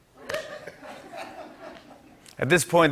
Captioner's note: laughter